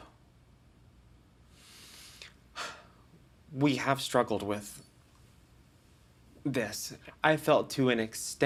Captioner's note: sighs